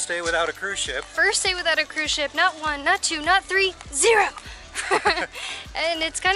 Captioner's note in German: Lachen